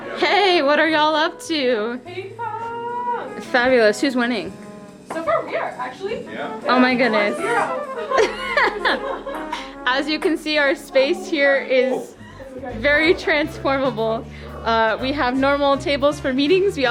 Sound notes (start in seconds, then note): 6.8 laughing